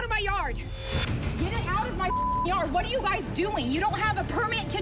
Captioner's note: beep